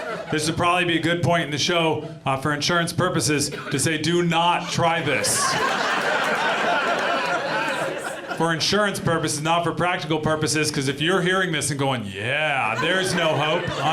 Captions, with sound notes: This would probably be a good point in the show for insurance purposes to say, "Do not try this." [AUDIENCE LAUGHS] For insurance purposes, not for practical purposes, 'cause if you're hearing this and going, "Yeah," there's no hope...